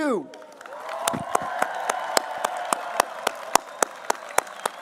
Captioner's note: applause